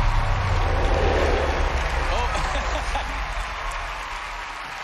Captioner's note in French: laughing